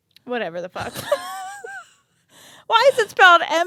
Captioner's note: both laugh